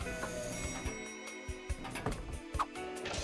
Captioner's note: elevator bell dings